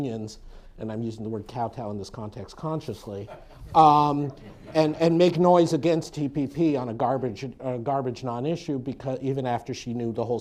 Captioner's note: laughter